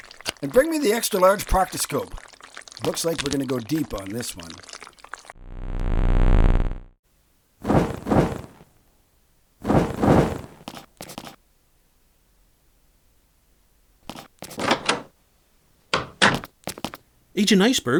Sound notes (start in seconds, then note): 7.5 fire crackling; 14.4 door closing; 14.4 door opening